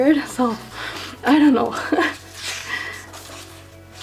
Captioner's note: laughs